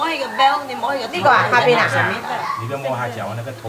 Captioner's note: Cantonese